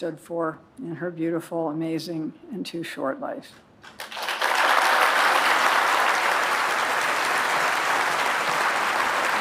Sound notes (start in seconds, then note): 3.8 applause